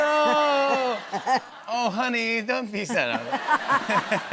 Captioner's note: laughter